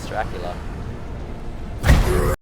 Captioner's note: Dracula death sfx